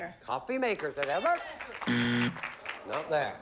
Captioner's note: buzzer